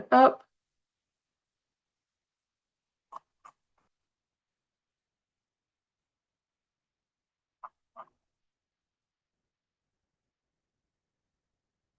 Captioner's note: pause